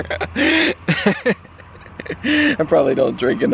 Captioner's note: chuckling